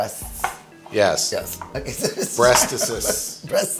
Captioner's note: laughs